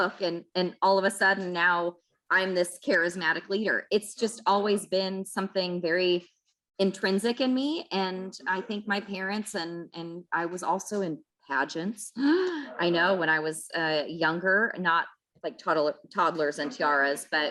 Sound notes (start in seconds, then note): 12.4 gasps